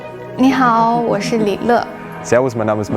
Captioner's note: speaking in foreign language